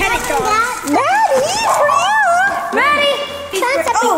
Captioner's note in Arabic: كلب ينبح